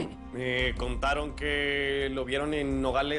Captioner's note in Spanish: Tobías carraspea